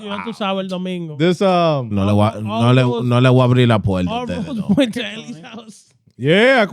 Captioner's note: speaking In Foreign Language